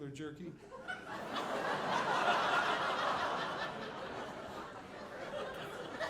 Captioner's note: audience laughing